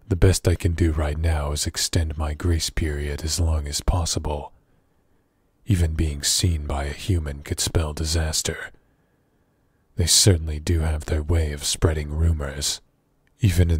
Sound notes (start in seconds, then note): none